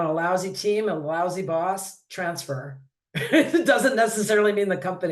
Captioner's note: laughs